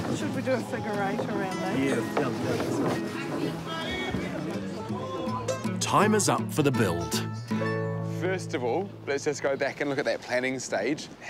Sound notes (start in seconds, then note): 3.8 chatter continues